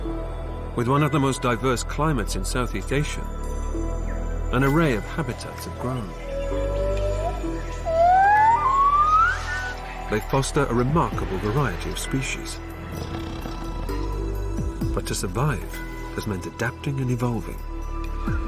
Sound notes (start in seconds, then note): 6.1 howling; 12.6 growling; 18.1 calm ethnic music